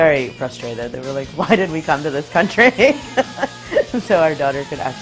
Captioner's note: laughs